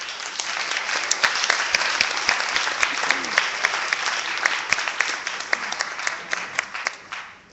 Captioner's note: clapping